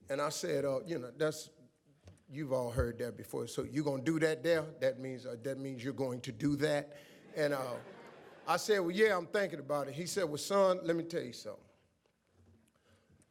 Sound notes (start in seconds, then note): 7.1 audience laughs